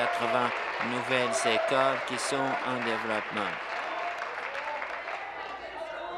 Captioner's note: applause